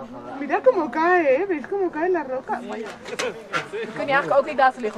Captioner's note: in Spanish